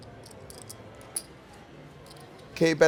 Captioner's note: soft clacking